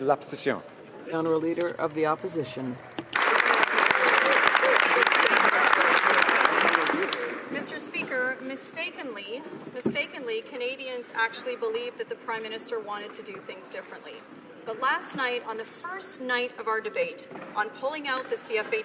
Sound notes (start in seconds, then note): 1.8 speaking French; 7.6 some Applause